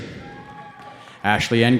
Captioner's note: cheering